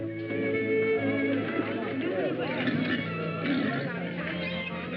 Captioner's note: chatter